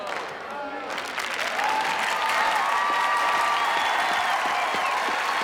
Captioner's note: clapping and cheering